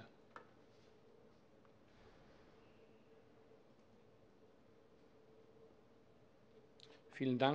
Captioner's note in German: Schweigeminute